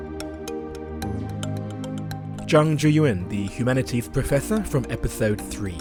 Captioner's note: voiceover